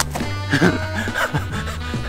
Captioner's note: laughing